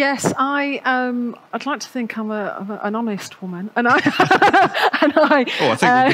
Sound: laughs

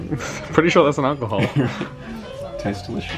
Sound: chuckles

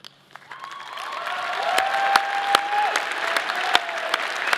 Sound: audience applauding

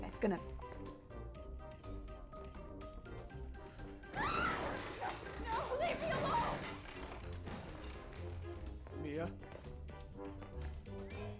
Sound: background screaming

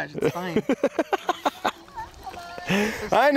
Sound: laughing

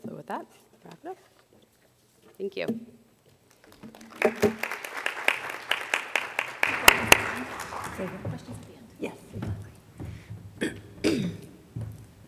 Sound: applause

